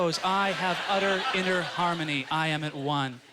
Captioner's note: audience laughter